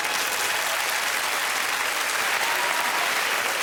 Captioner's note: cheering and applause